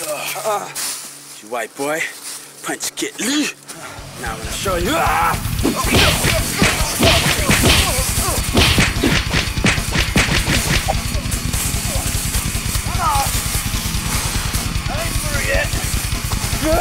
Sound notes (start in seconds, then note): 6.0 fighting sound effects; 8.0 heavy metal music